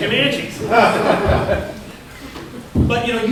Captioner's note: laughter